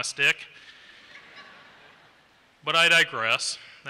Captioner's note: laughter